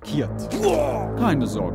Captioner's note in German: Zwerg brüllt